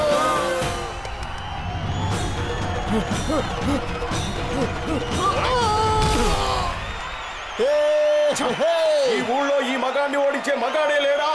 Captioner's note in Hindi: तालियाँ